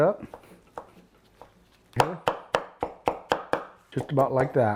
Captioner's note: chopping ingredients